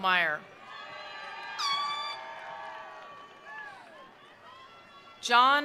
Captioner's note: attendees cheering; attendees applauding